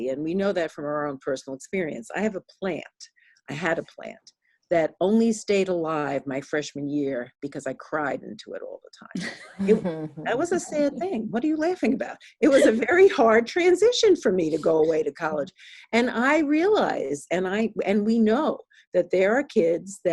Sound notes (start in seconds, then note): 9.2 chuckling